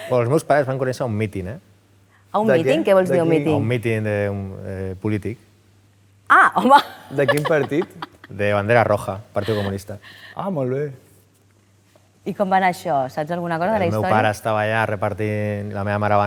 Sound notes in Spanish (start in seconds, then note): 6.4 irónicamente